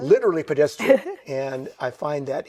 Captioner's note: chuckles